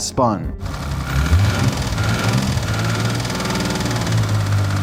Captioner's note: bearing spinning